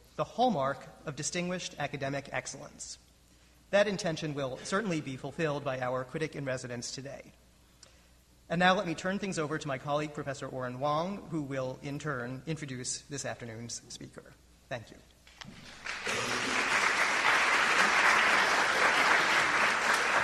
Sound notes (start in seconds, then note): 15.5 crowd clapping